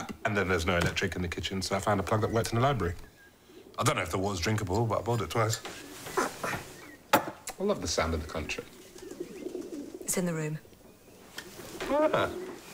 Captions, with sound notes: And then there's no electric in the kitchen, so I found a plug that worked in the library. I don't know if the water's drinkable, but I boiled it twice. I love the sound of the country. (Pigeons cooing) It's in the room.